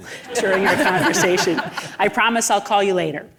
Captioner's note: audience laughing